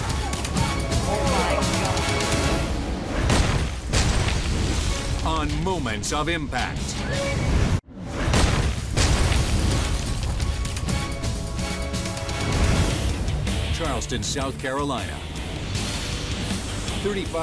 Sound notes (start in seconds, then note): 0.0 dramatic music; 3.5 logo slams; 8.2 dramatic music; 8.2 logo slams